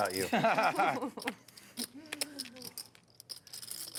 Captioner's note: laughing